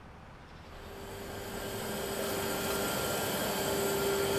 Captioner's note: droning